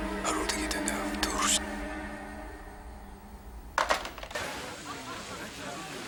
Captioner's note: whispering in foreign language; people laughing and talking